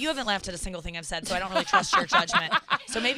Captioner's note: laughs